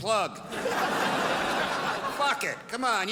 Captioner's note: crowd laughs